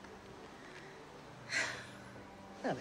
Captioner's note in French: soupirs